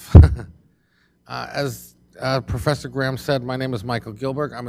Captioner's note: laughs